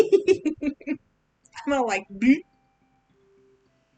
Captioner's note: blooomp